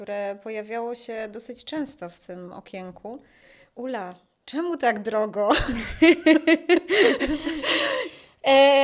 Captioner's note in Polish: śmiech